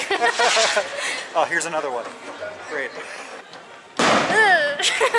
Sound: laughter; the loud bang of a rocket going off; laughter

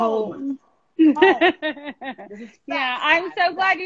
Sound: laughing

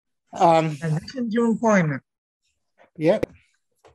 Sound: faintly speaking

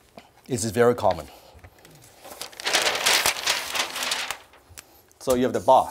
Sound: rustling paper

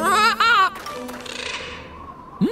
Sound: squawking

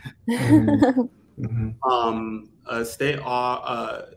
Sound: laughs

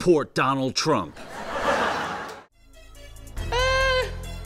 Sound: laughter

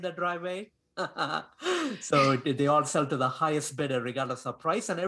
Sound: laughs

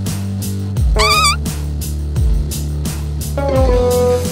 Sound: farting sound

